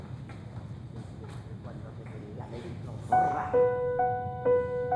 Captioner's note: female voice insulting, from a room; tense music